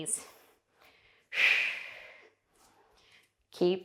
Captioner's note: breathing sharply